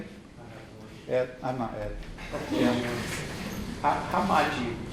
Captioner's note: softly talks off mic